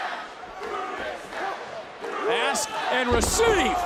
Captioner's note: crowd chants "usa"